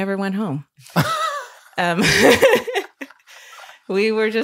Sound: laughing

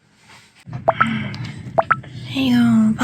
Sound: drinking

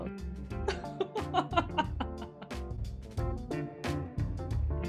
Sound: laughing

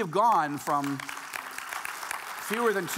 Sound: audience applauding

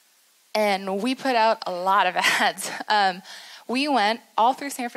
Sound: laughs

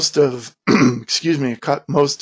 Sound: clears throat

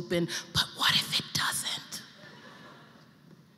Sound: whisper

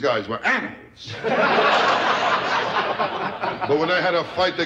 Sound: audience laughter

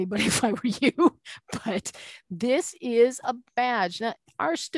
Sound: laughing

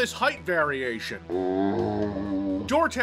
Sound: zombie sound

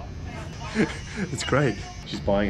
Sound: laughing

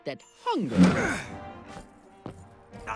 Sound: Gen grunts

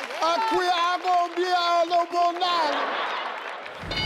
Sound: audience cheers; speaks African language; audience cheers; screen dings

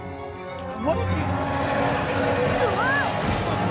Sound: growling

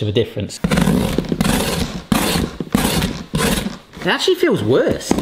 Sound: blade cutting

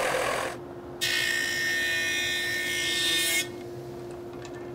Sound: saw zings

